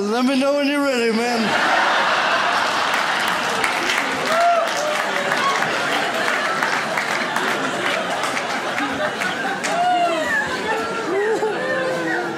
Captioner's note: audience laughs